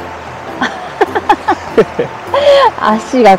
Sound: laughs

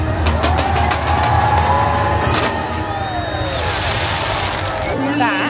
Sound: audience cheers; fireworks blast

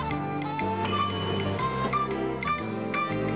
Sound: elevator bell dings

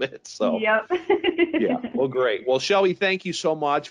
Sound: chuckling

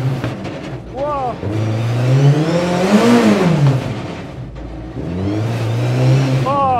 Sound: engine revving

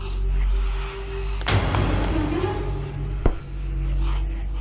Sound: foreboding music; something banging

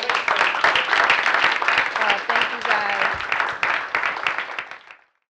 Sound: applause

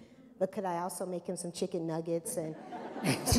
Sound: laughter

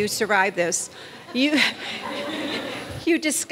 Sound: audience laughs

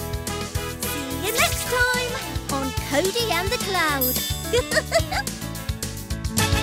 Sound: giggles

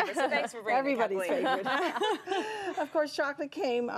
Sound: laughter

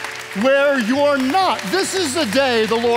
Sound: audience applauding

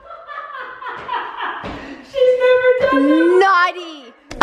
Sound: laughing

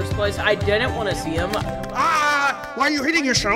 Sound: repeated tapping

